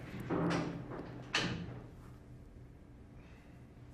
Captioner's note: door closing